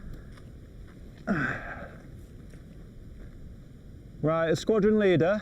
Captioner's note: Adrian grunts